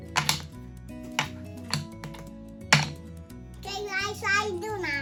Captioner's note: blocks clicking together